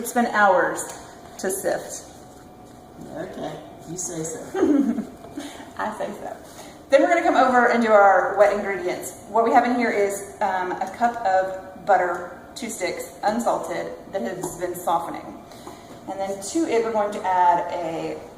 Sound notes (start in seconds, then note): 4.6 laughing